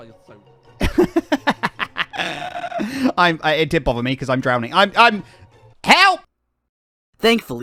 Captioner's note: laughs